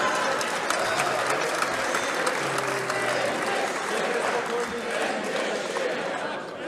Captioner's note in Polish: Aplauz